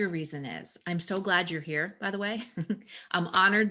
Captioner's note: chuckles